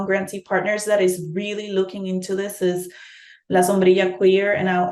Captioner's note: speaking in Spanish